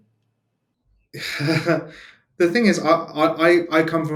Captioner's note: laughs